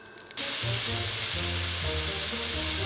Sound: sizzling

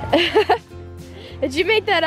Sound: laughing

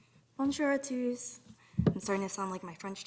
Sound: speaking in French

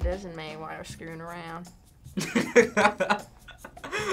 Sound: in "Southern" accent; laughs

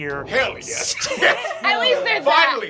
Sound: laughing

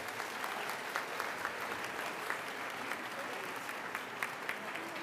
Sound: audience applauding

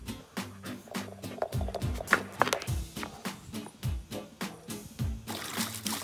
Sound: ball rattling; ball tapping; water splashing

